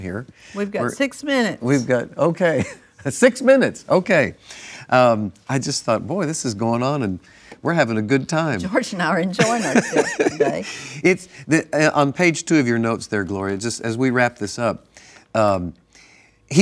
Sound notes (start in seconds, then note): 9.4 laughs